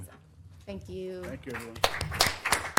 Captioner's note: applause